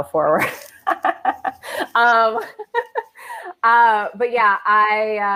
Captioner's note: laughs